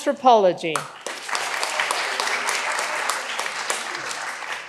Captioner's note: all applauding